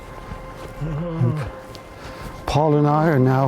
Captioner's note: groans